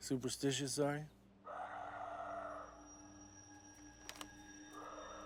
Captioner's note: animal screeching